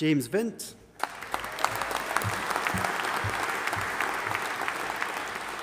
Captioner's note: audience applauding